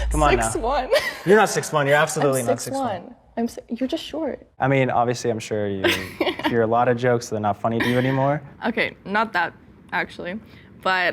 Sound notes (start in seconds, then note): 5.8 giggles